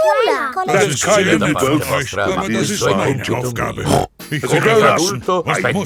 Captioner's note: snorts